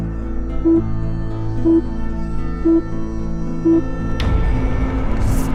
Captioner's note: screen beeping; suspenseful music